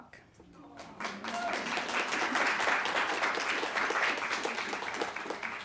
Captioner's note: audience applauding